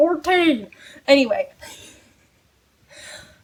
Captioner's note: laughs